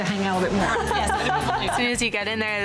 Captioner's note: laughing